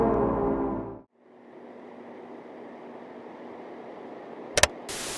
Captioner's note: fans whirring; button click; TV static